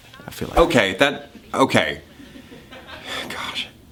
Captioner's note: sighs